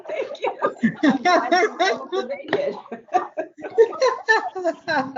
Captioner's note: laughter